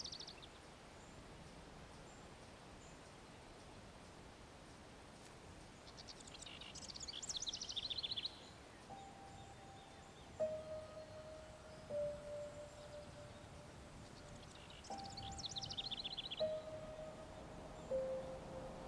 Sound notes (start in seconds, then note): 5.6 birds chirping; 9.0 slow gentle music